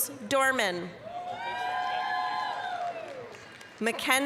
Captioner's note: applause, cheering